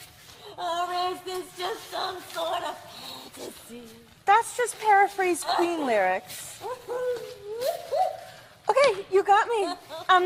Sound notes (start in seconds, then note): 6.4 sobs and whoops